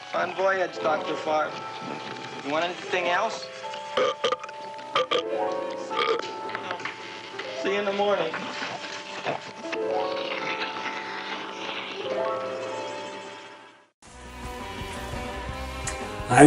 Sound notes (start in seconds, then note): 3.7 Audrey Junior Burping; 14.1 energetic spooky music